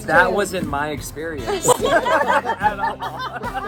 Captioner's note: laughter